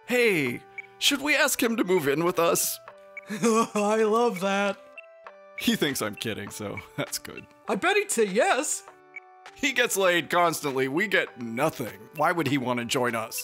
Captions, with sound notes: "Hey! Should we ask him to move in with us?" (laughing) I love that! He thinks I'm kidding, so that's good. I bet he'd say yes! He gets laid constantly! We get nothing! Why would he want to join us?